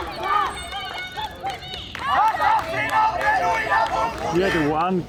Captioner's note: shouting in Armenian